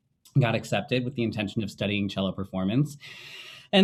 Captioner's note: sighing